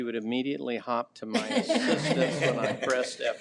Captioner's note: trustees laughs